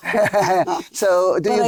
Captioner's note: laughing